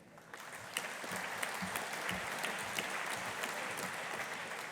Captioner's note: audience applauding